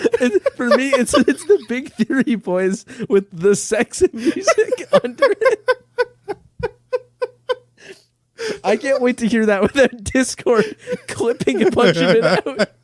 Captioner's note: laughing